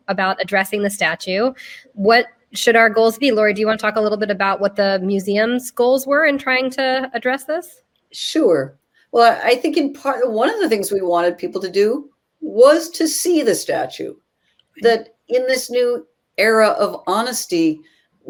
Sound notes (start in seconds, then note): none